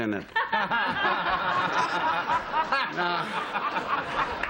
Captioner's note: laughter